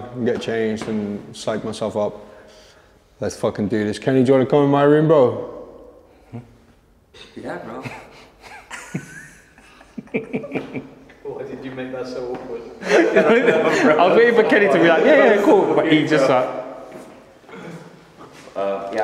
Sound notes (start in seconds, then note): 7.8 others chuckle; 12.6 all laughing